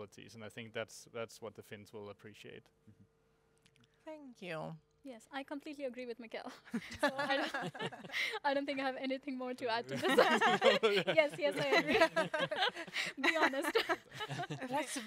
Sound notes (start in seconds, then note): 6.8 laughing; 10.0 laughing